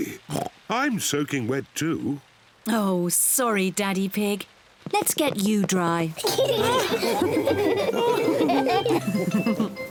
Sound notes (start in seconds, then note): 0.2 oinks; 6.2 all laughing